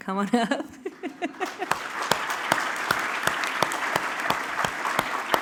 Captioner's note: applause